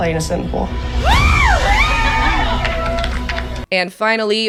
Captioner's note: cheers and applause